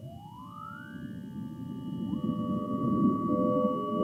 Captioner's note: machine whirring